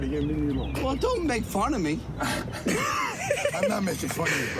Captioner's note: laughs